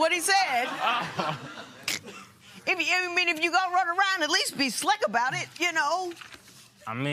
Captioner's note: laughter